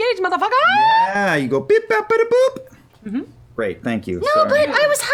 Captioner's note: blip noises